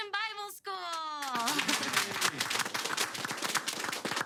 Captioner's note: all clapping